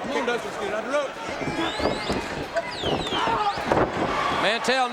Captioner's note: feet thudding